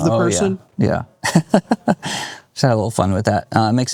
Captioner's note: laughs